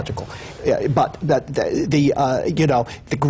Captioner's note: none